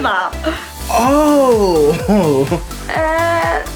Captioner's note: chuckles